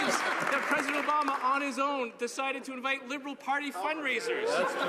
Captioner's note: some Applause